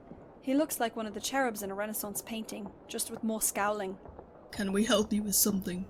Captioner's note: none